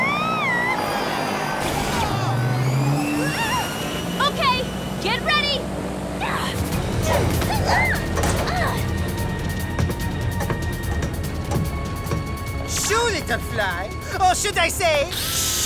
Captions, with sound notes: Okay! Get ready! [GRUNTING AND SCREAMING] Shoo, little fly! Or should I say... shoe? I got ya, Sammy!